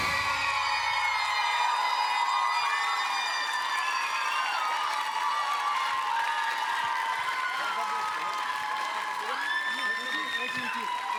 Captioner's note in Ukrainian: оплески